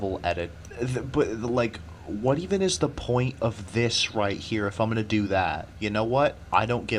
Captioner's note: sputtering